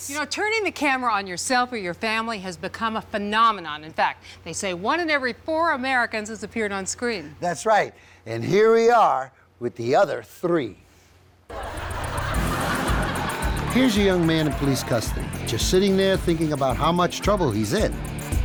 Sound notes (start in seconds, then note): 11.5 audience laughs